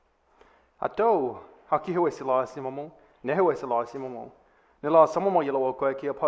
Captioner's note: speaking in foreign language